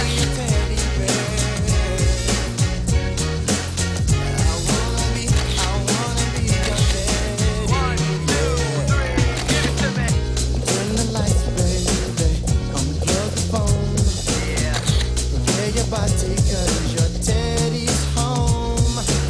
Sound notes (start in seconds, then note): 2.2 camera shutter clicks; 6.6 camera shutter clicks; 14.7 camera shutter clicks